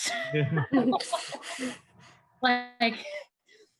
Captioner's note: all laughing